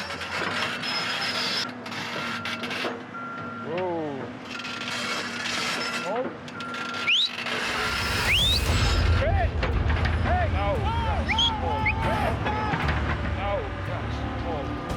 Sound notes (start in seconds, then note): 0.0 squeaking, beeping; 6.5 whistling